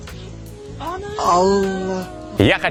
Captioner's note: surprised exclamation